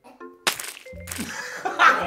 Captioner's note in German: Lachen